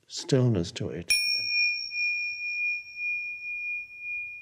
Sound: bell dinging

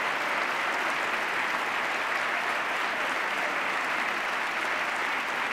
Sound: cheers, applause

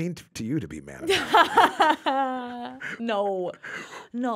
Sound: Liz laughs

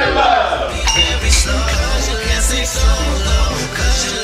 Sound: glasses clink

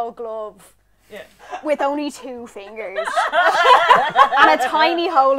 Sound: laughter

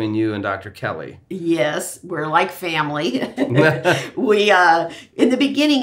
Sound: laughs

